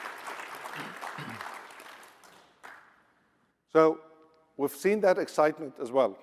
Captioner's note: applause